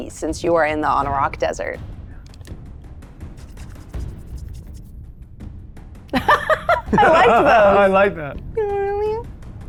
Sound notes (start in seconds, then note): 3.3 hands rubbing; 6.1 players laughing